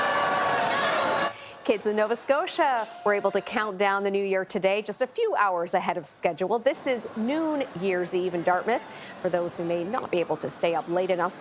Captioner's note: cheering and applause